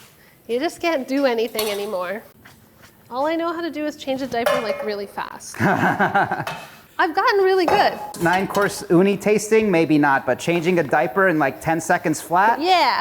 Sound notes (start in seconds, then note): 5.5 laughs